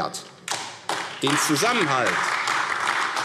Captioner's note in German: Beifall AfD